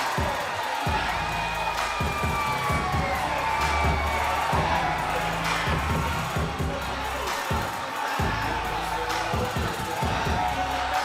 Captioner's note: crowd cheering